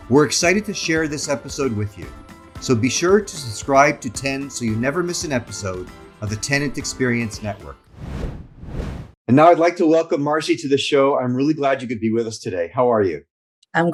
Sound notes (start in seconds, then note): 7.9 screen whooshing